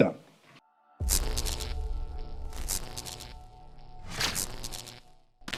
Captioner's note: electricity buzzing